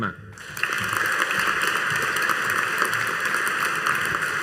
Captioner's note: audience applauding